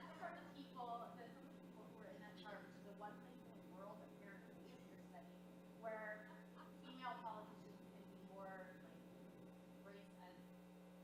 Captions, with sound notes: Referred to people in that chart, the one thing in the world (speaking off microphone). Where female policies usually will be more break and